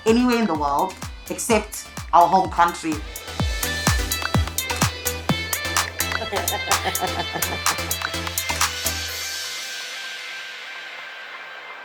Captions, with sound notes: anywhere in the world except our home country. (upbeat music) (cheerfully laughs)